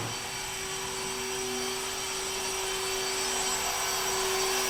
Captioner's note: machines whirring